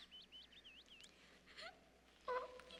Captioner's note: sobbing